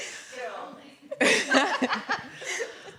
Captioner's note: laughter